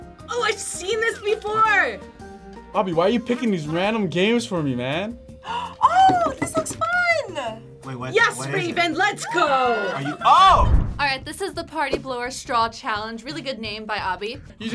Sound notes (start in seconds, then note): 5.4 gasps